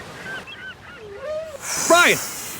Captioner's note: seagulls crying; whale calls